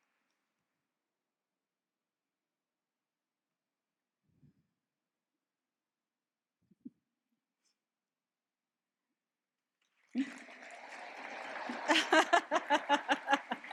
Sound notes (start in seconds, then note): 10.1 applause and cheering; 10.2 laughs